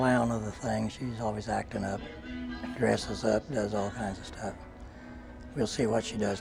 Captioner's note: laughing